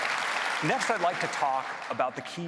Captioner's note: applause